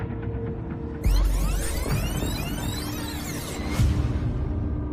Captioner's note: tape screeching